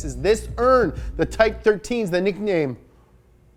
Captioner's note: none